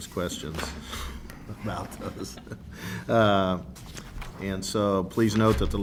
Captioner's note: laughs